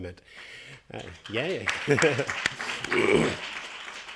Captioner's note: attendees applauding; chuckles